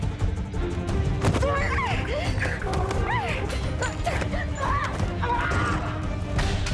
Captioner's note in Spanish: Gritos